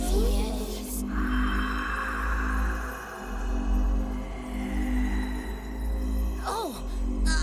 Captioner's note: eerie whispy sounds as crystals shimmer in the cold air, Strap looks into one